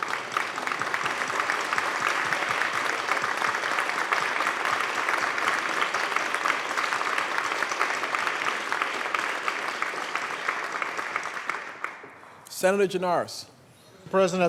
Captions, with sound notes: PLEASE RISE AND BE RECOGNIZED. ,. [ APPLAUSE ] LAST. [ APPLAUSE ] ,. [ APPLAUSE ] ,. [ APPLAUSE ] ,. [ APPLAUSE ]